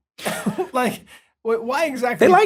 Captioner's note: laughs